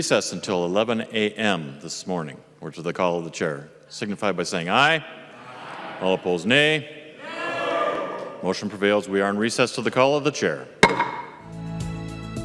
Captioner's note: chorus of ayes